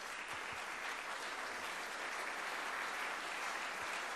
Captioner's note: applause